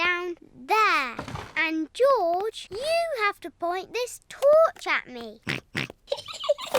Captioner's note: snorts; giggling